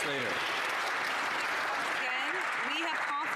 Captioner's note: some Applause